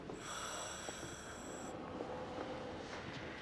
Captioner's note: wheezing